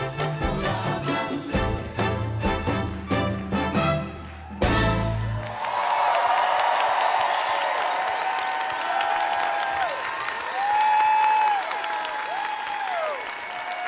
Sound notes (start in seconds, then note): 4.5 song ends; 6.4 applause